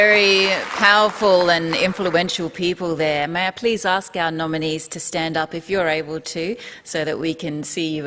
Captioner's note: applause